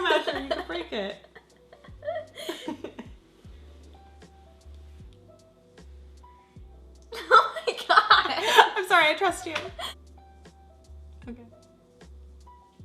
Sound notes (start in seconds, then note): 2.2 laughs; 4.1 soft electronic music